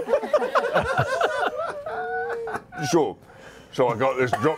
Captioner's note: laughter